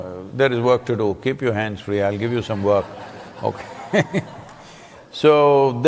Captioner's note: laughter